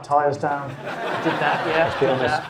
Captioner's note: audience laughing